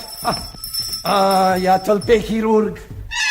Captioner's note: knock at the door